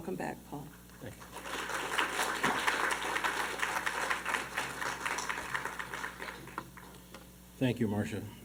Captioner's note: applause